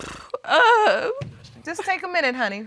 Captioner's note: crying